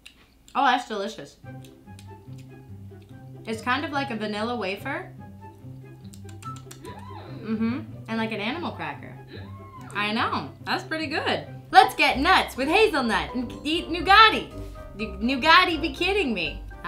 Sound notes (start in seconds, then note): 7.0 voiceover; 9.1 voiceover